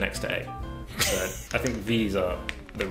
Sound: chuckling

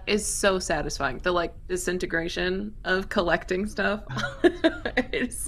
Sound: laughs

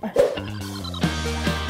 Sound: chuckling; upbeat lively music; screen whooshes

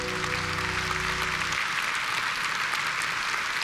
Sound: applause

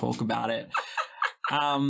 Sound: laughing

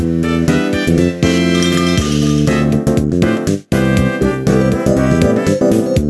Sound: tinkle tinkle

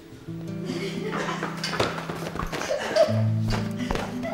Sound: laughing

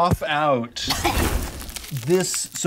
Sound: Evelyn coughs

